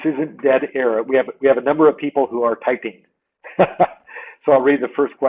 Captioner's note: laughs